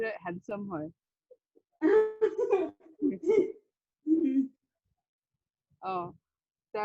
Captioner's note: laughs